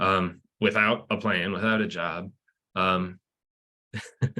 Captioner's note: laughs